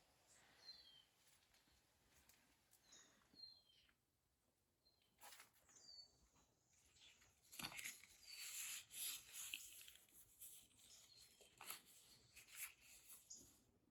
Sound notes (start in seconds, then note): 0.1 birds chirping; 8.1 leaf rustling